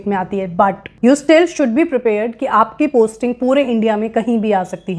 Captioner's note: speaking hindi